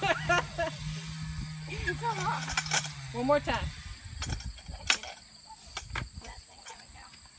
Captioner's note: laughing